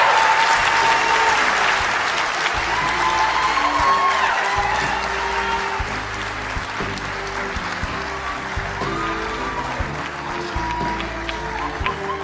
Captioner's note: applause; cheering